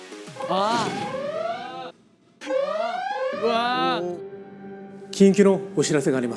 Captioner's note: the alarm ringing again